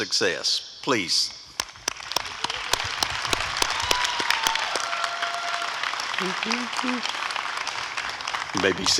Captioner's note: applause and cheering